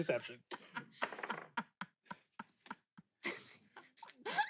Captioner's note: laughs